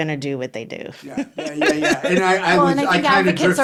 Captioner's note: laughing